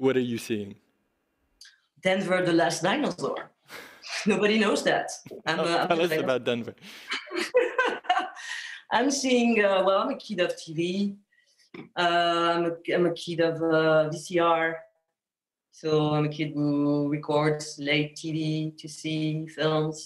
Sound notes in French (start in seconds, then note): 6.8 rires